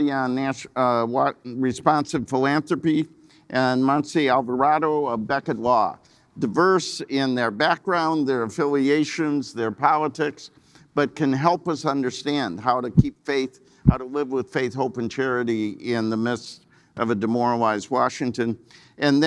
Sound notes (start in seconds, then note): none